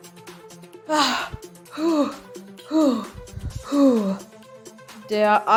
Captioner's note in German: schweres Atmen